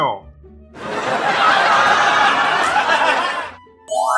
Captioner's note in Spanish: Risas